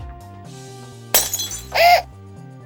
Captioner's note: the sound of wine fuelled violence